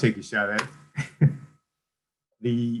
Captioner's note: laughs